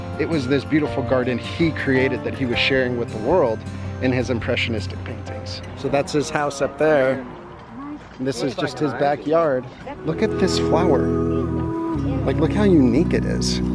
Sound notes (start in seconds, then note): 9.4 onlookers murmuring; 9.8 quiet music